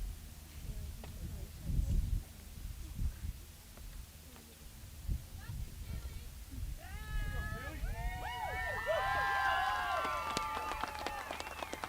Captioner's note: applause